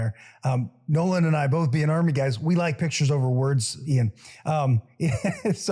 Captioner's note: laugh